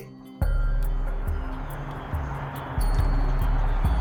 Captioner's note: car whooshes